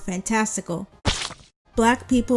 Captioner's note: pie splatter sound effect